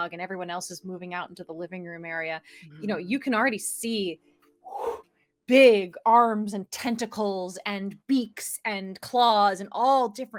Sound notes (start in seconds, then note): 4.5 air whooshes